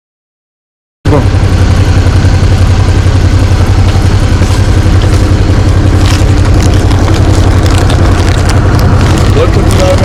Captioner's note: motorbike engine